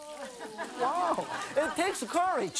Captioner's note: laughing